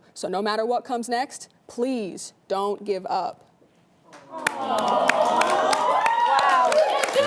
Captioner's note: audience Clapping